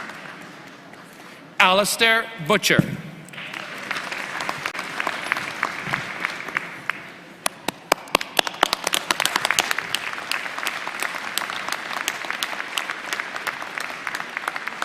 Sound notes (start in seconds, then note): 8.5 applause